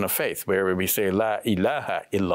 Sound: speaks in Arabic

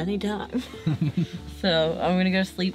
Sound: laughs

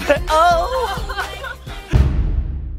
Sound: laughter

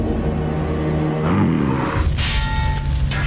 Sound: grunting

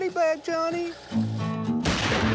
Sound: gunshot

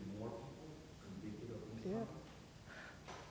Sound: speaks quietly without mic

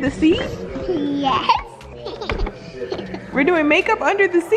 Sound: laughing

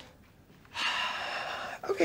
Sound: sighs

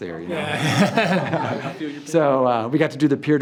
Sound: everyone laughs

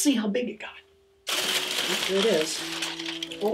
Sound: corn stalk rustles

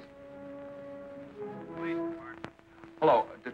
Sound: on phone

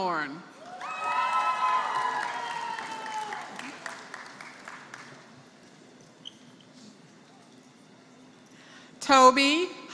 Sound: applause

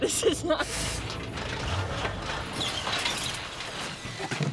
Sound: engine dies

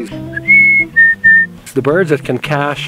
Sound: whistles

